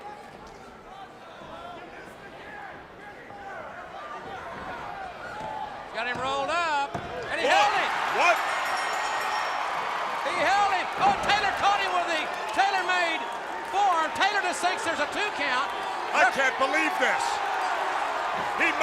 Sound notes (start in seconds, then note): 0.2 crowd chatter; 8.1 bell ringing; 10.1 crowd cheering